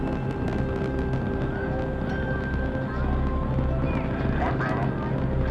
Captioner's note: rocket roaring